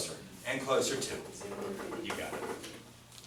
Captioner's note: voiceover